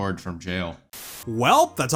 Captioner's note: static